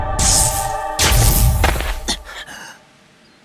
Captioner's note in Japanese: 着陸音